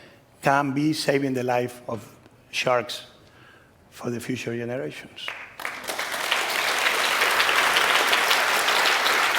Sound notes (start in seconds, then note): 5.2 applause